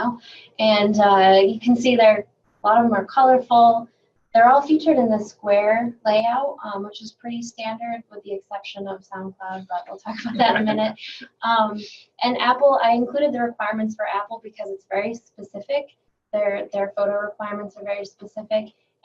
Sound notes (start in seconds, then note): 10.2 laughing